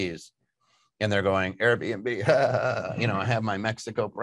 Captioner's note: laughs